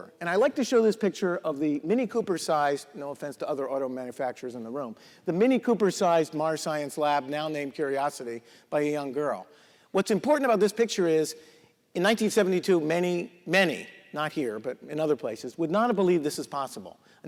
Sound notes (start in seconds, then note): none